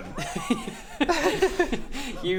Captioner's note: average giggles